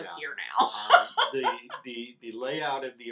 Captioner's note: laughs